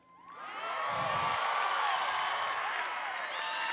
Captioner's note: applause